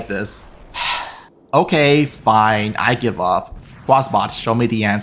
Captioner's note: sigh